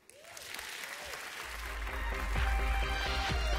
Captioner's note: applause